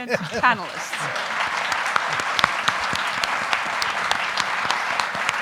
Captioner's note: audience applauding